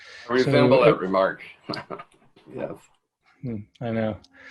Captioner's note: laughs